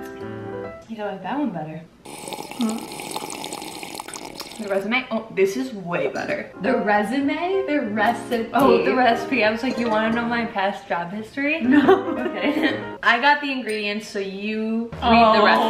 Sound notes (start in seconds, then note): 2.0 both drinking; 11.7 laughing